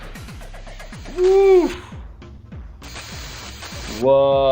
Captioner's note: exclaims